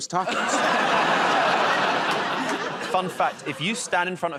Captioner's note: laughter